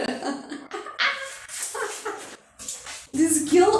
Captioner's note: laughs